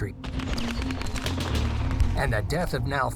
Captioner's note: weapons firing